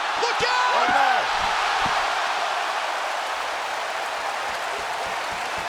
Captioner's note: audience cheering